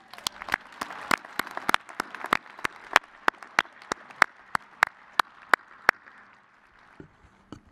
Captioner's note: applause